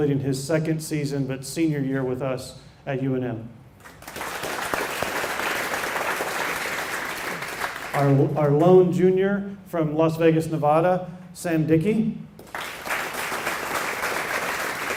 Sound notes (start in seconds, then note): 3.8 applause; 12.4 applause